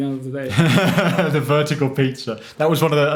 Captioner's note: laughs